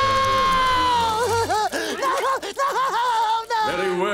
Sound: crying

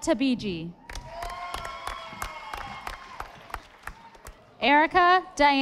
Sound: audience applauding

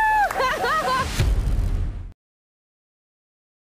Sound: laughing

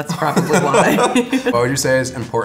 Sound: laughing

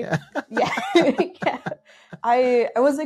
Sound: laughing

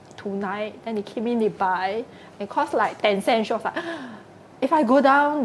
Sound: gasp

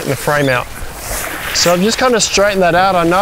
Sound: fabric rustling

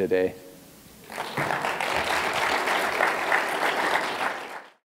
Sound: applause

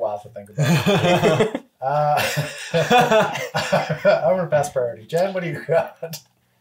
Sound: laughs

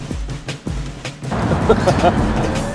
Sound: laughing

